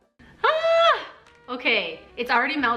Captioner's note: laughs; screams